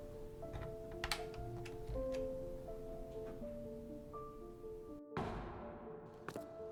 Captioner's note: A door opens, closes with an echo. Wind sounds end; footsteps echoing